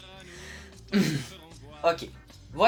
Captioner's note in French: se racle la gorge